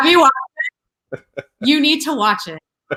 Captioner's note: laughs